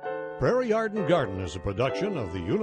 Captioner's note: voiceover